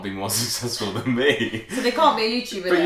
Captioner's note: laughter